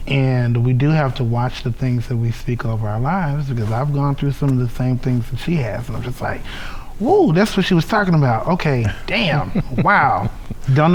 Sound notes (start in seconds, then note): 6.5 sighs